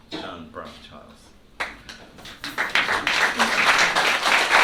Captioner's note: applause